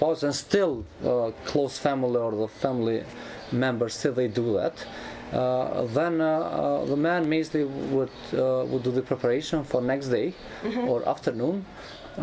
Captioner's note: cry